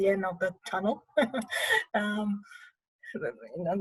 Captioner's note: laughter